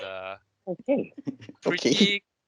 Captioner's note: chuckling